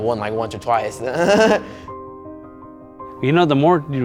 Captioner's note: laughing